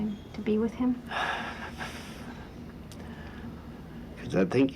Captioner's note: exhales